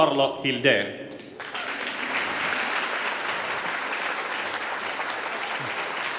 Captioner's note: applause